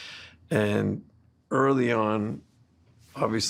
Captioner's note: none